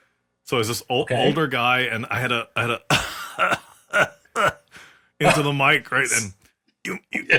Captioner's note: cough